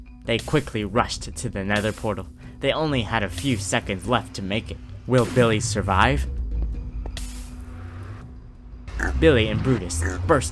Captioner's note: time ticking